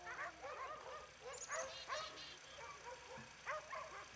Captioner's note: dogs barking